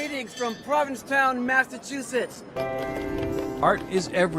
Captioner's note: bell ringing